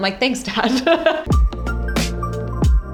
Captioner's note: Ashley laughs; gentle ambient music